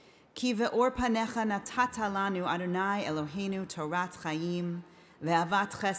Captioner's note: speaking in foreign language